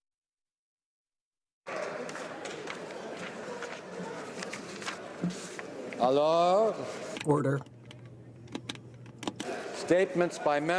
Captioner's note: applause